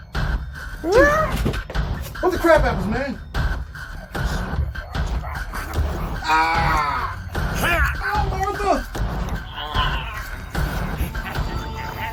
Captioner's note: groans